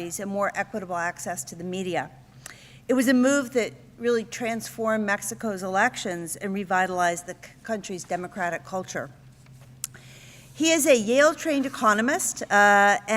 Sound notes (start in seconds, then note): none